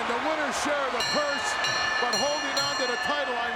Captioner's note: bell ringing